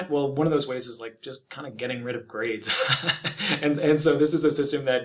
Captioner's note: laughs